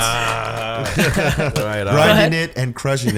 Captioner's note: laughs